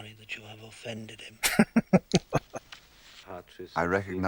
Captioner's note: laughing